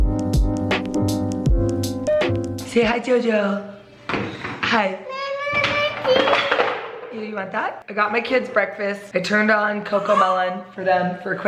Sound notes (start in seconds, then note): 5.0 babbling